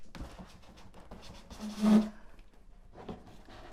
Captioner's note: box scraping